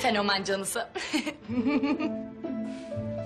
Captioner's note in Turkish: Gülme